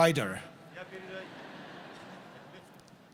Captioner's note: laughter